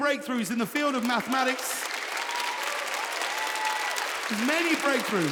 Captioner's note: audience cheering